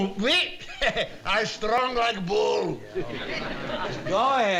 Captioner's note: laughs